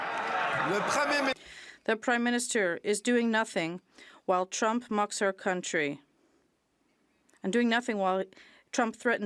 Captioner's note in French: voix de l'interprète